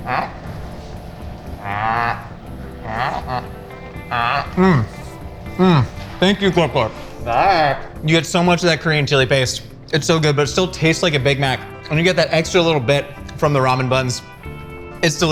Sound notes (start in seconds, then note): 0.0 Glorp Glorp moaning